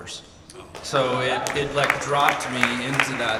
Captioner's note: audience cheers